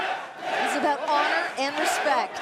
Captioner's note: fans chanting